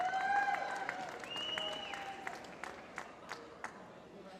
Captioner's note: applause